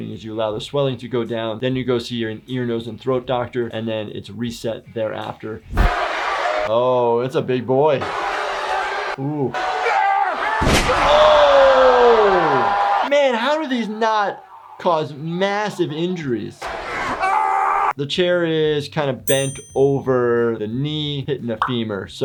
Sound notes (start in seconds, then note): 17.3 Kane screaming loudly